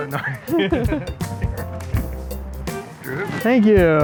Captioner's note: laughter